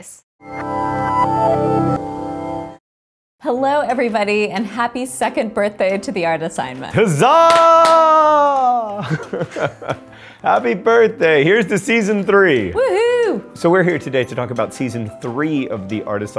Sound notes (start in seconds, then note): 8.0 laugh